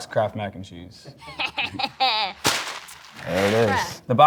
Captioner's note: laughs